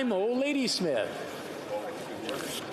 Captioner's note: speaking French